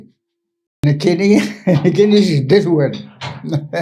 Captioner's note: laughs